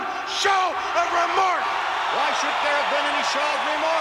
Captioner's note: crowd boos